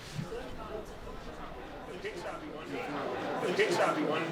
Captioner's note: murmuring